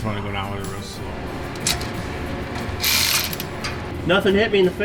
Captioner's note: tool clicking